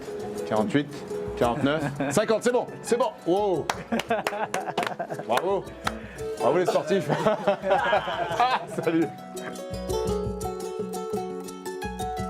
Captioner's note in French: rires; rires